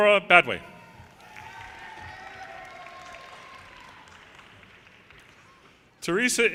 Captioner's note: audience cheers and applause